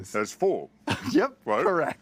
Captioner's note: laughs